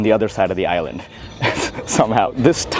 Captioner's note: laughs